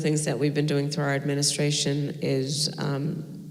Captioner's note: none